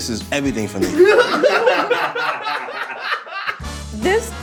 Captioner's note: everyone laughing